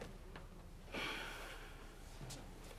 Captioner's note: sighing